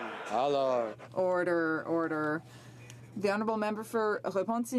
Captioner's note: some Applause